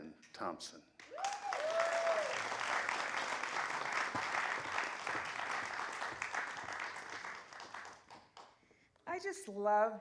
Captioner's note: applause